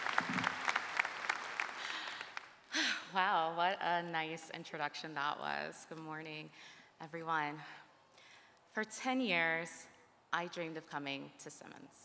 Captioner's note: cheers and applause